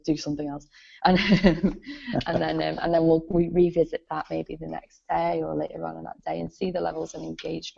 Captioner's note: laughs